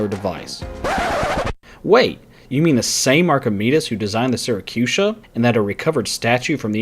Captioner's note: record scratches